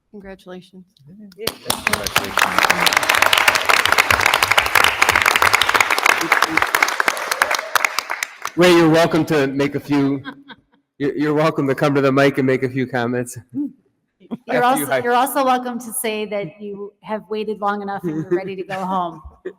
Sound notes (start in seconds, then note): 4.3 attendees applauding